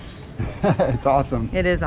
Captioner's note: laughs